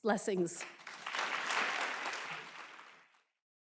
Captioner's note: applause